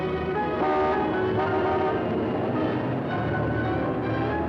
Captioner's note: horn honking